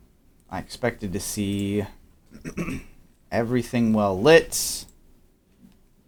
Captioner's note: clears throat